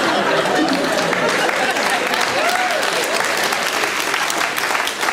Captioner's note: audience cheering